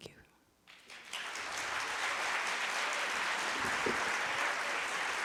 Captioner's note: audience applauding